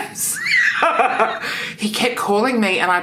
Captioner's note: laughs